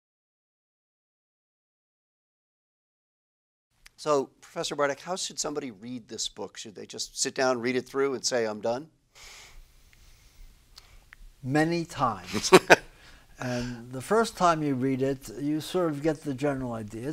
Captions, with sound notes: So Professor Bardach, how should somebody read this book? Should they just sit down and read it through, and say, I'm done? Many times. [LAUGHTER] And the first time you read it, you get the general idea.